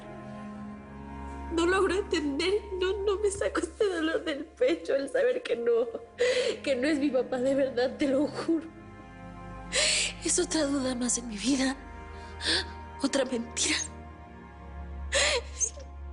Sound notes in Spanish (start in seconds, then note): 6.2 Solloza